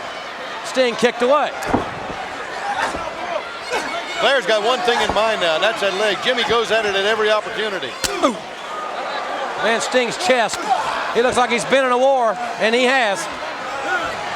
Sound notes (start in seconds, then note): 8.0 chop striking; 8.2 Sting exclaiming